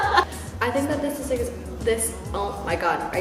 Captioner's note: stutters